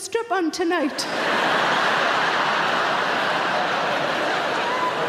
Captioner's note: audience laughing